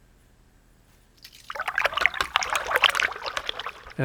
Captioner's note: water sloshing